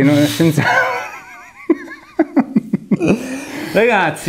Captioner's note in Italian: ridono entrambi